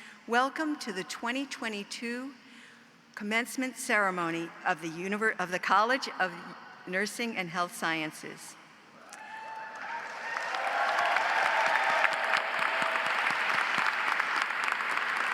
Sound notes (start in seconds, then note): 9.0 audience cheers; 9.2 audience applauds